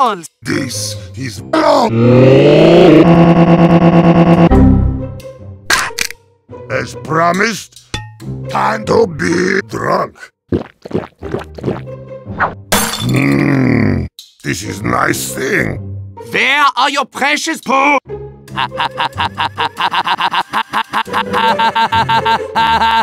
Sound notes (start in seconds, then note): 2.8 Heavy's Voice corrupted; 5.4 random sound effects; 12.7 bottle tossed and breaks